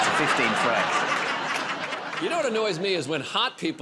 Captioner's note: laughter